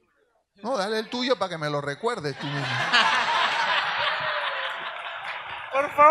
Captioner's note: audience laughs; speaks in Spanish